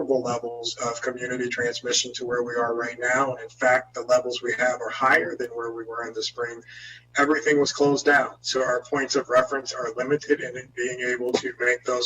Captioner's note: spanish